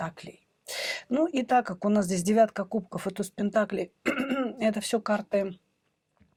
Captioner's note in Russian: откашливается